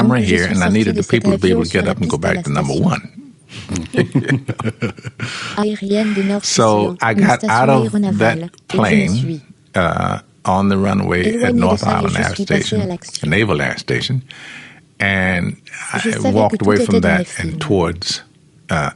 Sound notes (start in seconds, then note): 3.6 laughs